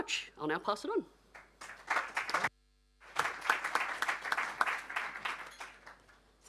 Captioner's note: applause